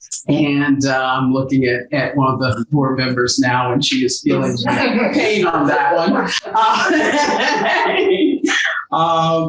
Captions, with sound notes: and I'm looking at one of the board members now and she is feeling a bit of pain on that one. (laughs)